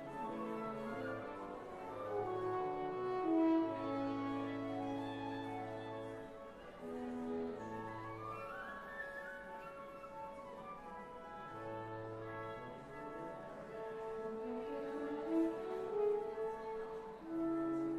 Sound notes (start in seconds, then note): none